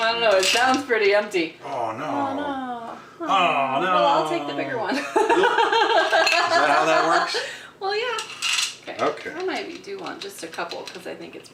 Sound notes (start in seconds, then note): 2.7 laughing